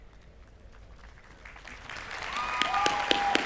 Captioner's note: applause